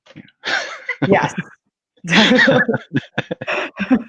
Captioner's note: laughs; laughing